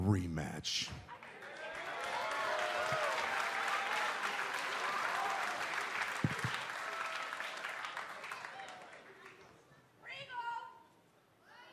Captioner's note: cheers and applause